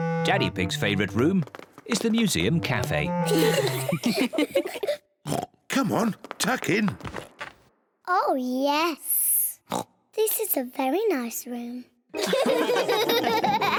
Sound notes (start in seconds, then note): 3.2 all giggle; 5.2 oinks; 9.7 oinks; 12.1 all laugh